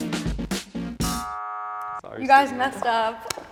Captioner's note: buzzer buzzing